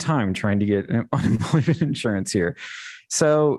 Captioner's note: laughter